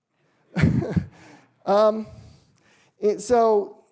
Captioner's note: laughs